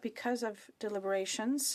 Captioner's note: speaking French